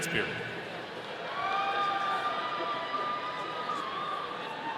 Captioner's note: audience cheering